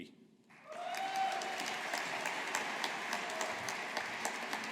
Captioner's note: audience applauding